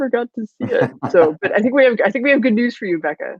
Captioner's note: laughing